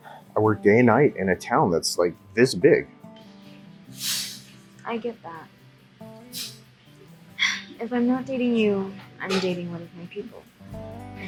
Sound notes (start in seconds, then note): 7.4 sighs